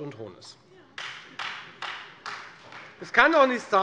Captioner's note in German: Beifall Freie Demokraten